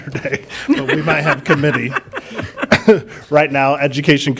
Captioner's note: chuckling